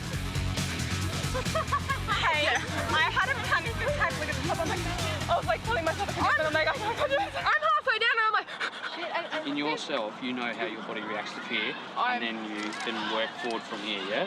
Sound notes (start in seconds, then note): 0.0 upbeat music; 8.4 pants quickly